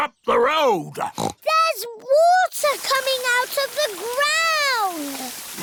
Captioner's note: oinks